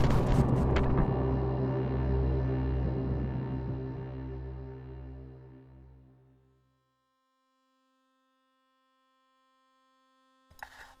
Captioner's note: man's reflection yelling